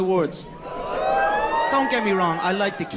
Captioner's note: cheering